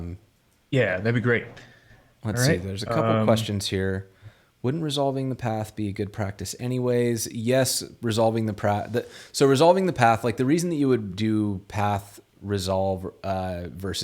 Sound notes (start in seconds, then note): none